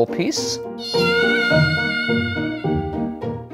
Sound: gentle screaming

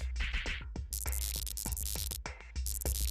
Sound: electronic buzzing

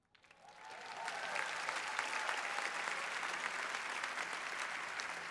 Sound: applause

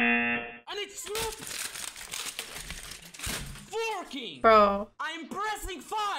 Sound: buzzer rings; equipment clatters

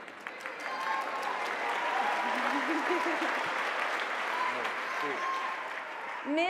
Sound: audience cheering and applauding

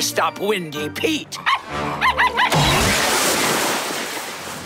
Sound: barking

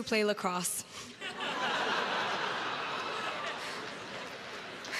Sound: crowd laughs

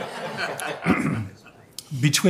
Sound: members laughing

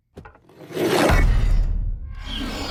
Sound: pitchfork slides, crashes

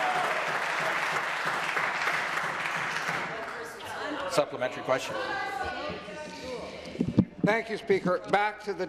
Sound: applause

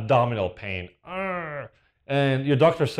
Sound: groans

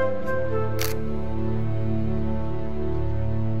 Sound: camera shutter

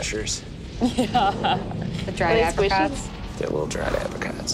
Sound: murmurs

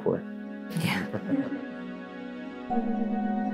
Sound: both laugh; slow music continues

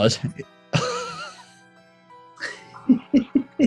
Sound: sniggering; giggling

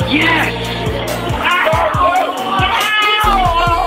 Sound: man screaming

